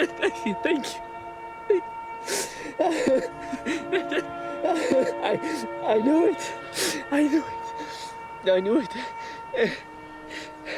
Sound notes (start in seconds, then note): 2.2 sobbing